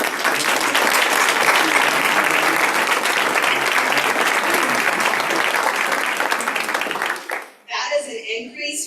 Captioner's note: applause